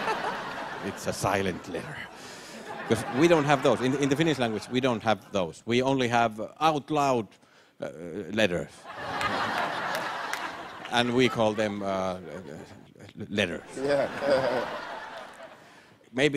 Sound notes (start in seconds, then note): 8.8 laughter; 13.6 chuckles